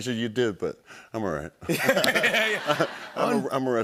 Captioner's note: laughter